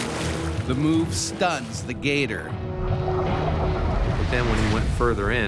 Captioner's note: voiceover